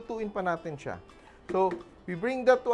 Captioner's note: knock